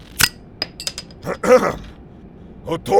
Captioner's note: Heavy Guy clears his throat